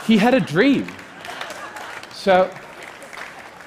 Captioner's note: applause